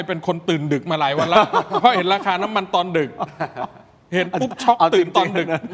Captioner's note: laughs